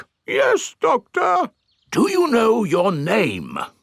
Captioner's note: in teddy's voice; in normal voice